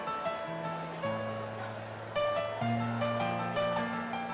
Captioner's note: none